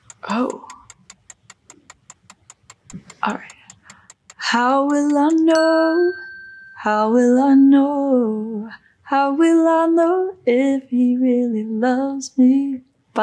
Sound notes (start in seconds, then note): 1.7 timer ticking